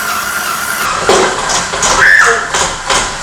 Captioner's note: pot clanging; screams